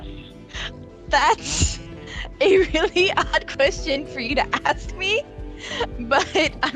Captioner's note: laughing